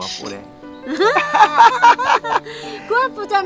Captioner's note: both laughing